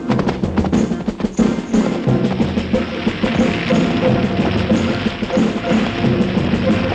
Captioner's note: fire crackling; dramatic music